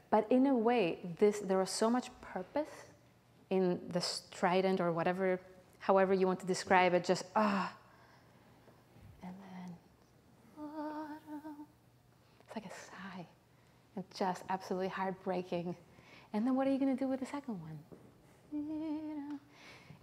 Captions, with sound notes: But in a way, this, there was so much purpose in the strident or however you want to describe it, just, (sighs) And then, (sings softly) it's like a sigh. Just, absolutely heartbreaking. And then what are you gonna do with the second one? (sings softly)